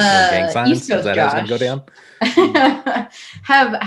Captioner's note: laughs